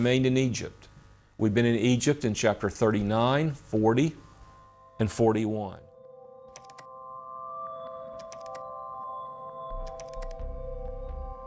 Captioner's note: typewriter clicking